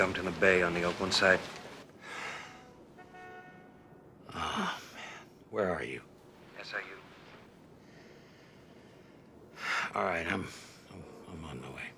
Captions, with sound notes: His body was dumped in the Bay on the Oakland side. (sighs) Oh, man. Where are you? SIU. All right, I'm, I'm on my way.